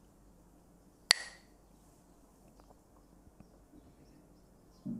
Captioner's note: Mooji clacks the sticks